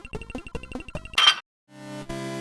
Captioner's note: metallic clank